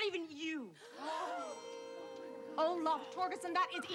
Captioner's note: kids gasping